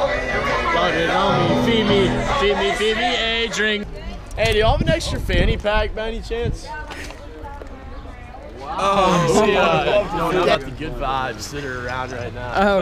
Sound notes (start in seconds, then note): 8.6 men murmuring